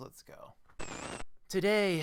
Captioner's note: static